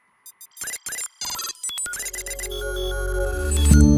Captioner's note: logo chiming